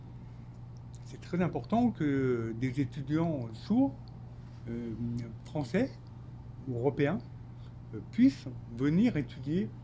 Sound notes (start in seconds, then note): 1.2 speaking French